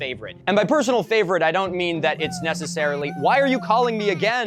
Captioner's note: minion noises text tone